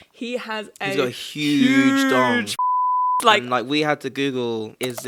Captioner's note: beep